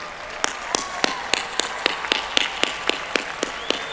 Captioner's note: applause